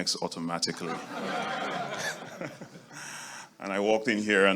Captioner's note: audience laughing